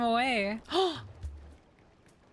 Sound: gasp

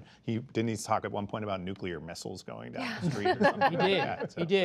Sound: laughter

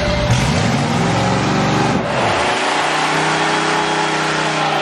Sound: engine revs loudly

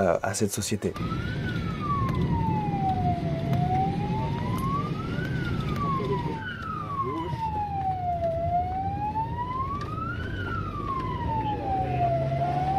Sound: emergency sirens

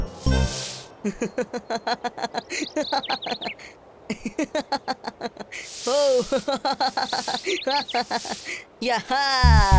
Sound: Boris LAUGHING

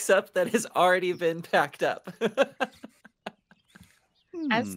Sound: laughing

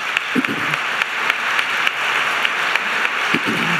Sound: applause

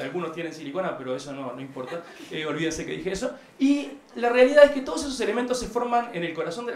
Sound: laughs

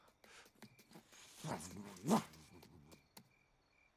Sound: grunting

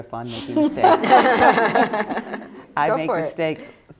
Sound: laughter

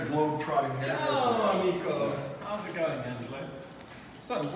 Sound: speaking in Italian

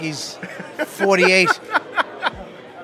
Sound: laughter

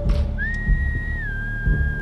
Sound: whistle

